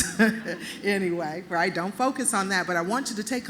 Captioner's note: laughter